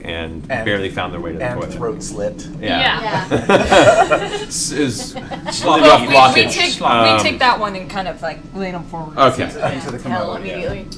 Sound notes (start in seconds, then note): 3.0 laughter